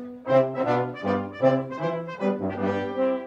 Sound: none

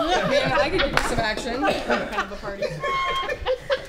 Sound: laughing

